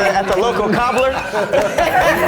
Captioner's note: soft clapping